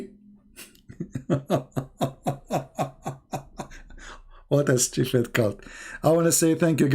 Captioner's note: Ketawa